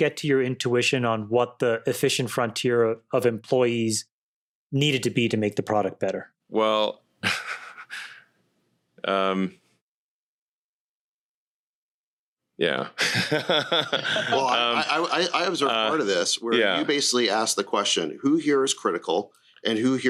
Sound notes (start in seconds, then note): 7.2 chuckles; 12.9 laughs